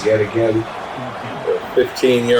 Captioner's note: crowd Noises